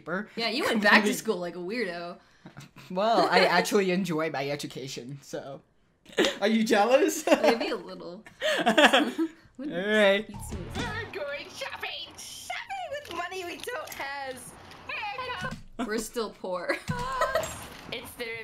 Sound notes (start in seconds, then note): 6.2 laughing; 16.8 laughing